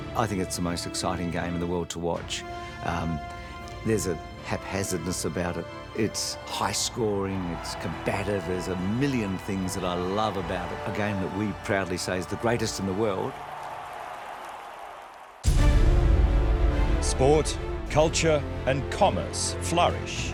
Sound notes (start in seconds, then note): 13.5 crowd cheering; 15.4 thrilling music